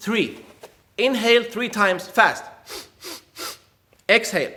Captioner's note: air hisses